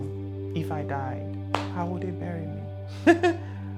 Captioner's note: laughs